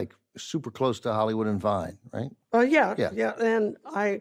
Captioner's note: none